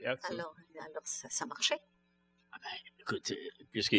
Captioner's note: speaking french